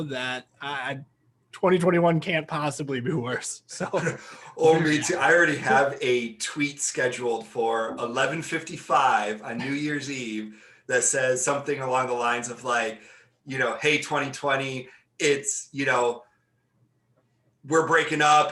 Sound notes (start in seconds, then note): 3.7 laughing